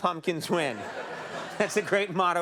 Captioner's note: audience laughs